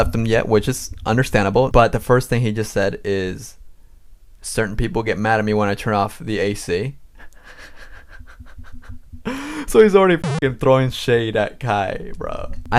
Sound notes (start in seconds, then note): 7.2 laughs